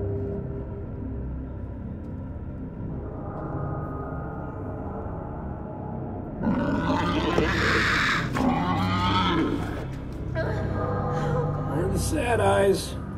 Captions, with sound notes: (creature squealing) Don't stare at eyes.